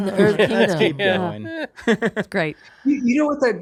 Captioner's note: laughs